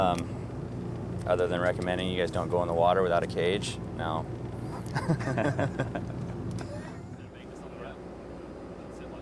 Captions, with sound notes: Other than recommending you guys don't go in the water without a cage? -No. -[both laugh]